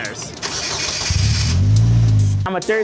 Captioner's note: car engine starts